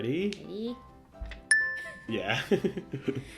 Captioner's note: dinging